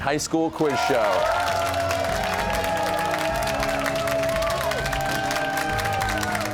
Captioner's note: cheers and applause